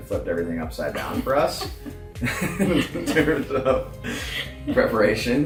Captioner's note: laughs